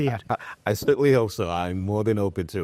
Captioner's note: laughs